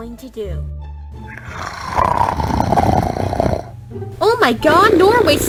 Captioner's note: snoring